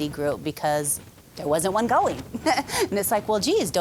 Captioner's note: laughing